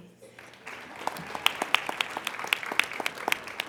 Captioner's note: applauding